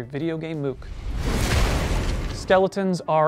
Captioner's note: skeleton goes crunch